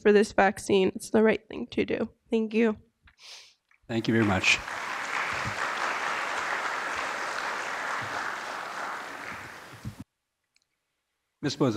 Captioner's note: applause